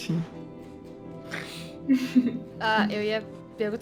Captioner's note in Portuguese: risos